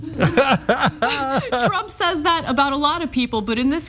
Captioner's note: laugh